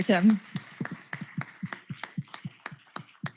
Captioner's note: applause